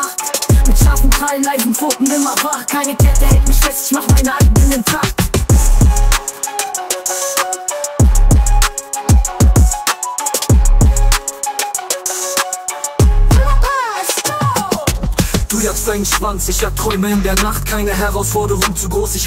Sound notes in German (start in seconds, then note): 8.7 Record scratch